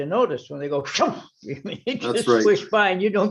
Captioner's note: giggles